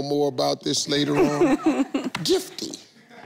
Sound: chuckles

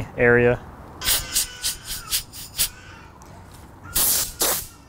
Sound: air whooshing

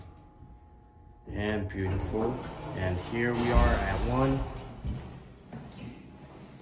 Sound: door Opens

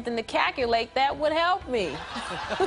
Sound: laughter

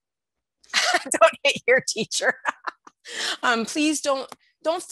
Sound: laughter

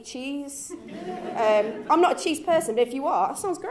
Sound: laughs

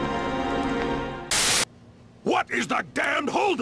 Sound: static

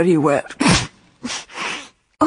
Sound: she sneezes

